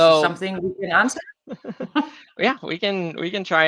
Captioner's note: chuckles